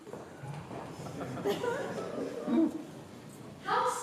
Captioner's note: fleeing footsteps, laughter